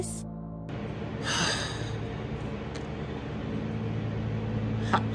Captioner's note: groans in frustration